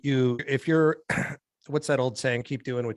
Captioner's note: clears throat